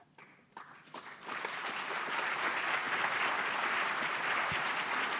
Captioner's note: applause